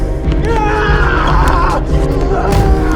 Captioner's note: Tippet yells